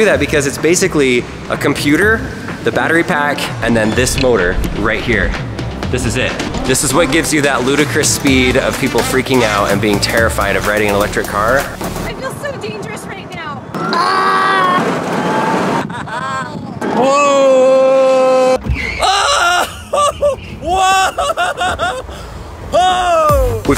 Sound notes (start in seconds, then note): 14.4 wind rushing; 15.4 laughing; 18.9 yelling; 22.2 laughing